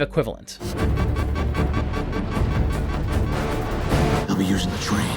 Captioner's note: alarms beeping